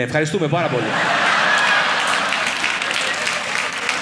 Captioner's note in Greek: γέλια; ελαφρύ χειροκρότημα